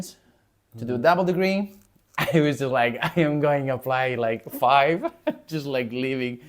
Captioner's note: laughs